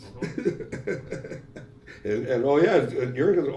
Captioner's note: laughs